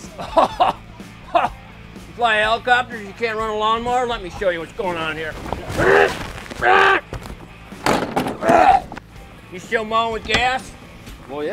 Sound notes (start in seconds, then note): 5.8 grunting; 8.1 lawnmower rattling